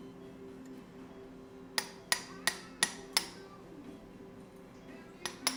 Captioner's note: hammering